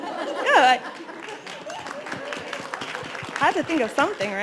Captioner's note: applauding